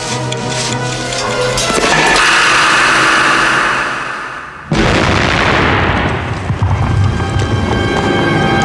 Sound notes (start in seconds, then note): 0.1 ticking; 3.7 explosion